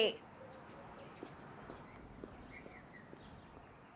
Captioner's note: birds chirp